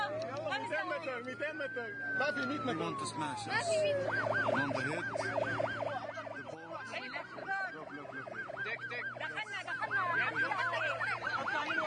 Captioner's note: Coastguard siren wails